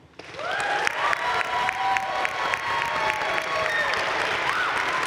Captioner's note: crowd cheering and applauding